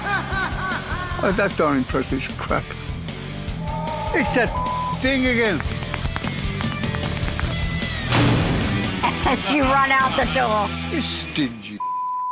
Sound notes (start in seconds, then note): 2.8 bats screeching; 8.1 door bangs